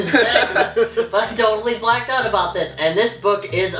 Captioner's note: laughter